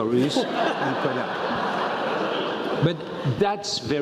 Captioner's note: laugh